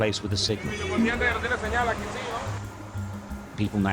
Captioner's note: man speaking foreign language